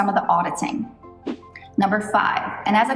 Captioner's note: air whooshes